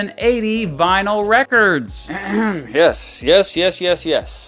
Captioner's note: clearing throat and tilting head to Every President’s Favorite Music thumbnail